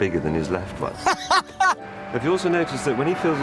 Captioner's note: richard laughs